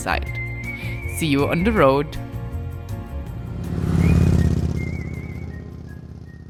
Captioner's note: motorcycle engine revs